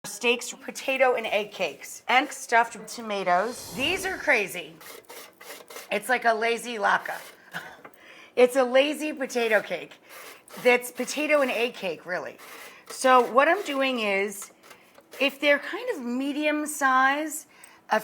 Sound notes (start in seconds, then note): 4.7 cheese scraping; 7.6 chuckling